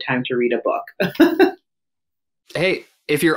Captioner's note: laughs